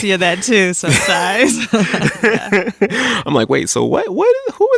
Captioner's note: both laughing